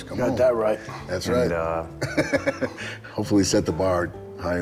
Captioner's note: laughing